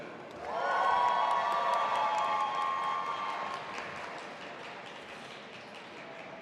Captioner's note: audience applauding and cheering